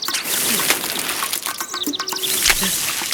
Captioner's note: water squirt